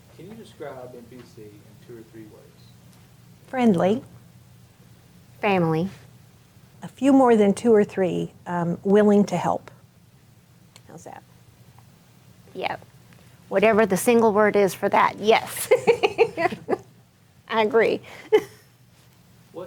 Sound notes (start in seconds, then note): 15.5 laughing; 15.5 chuckles; 18.5 chuckles